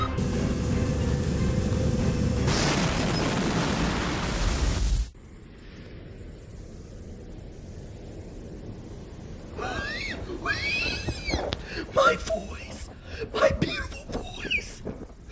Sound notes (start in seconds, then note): 9.6 wheezing